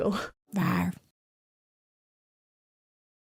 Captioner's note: soft roaring